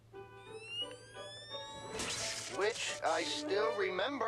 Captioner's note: electrical whine